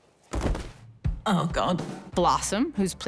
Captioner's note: body collapsing